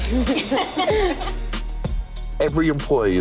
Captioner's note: laughter